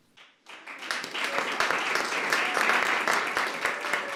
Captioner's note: applause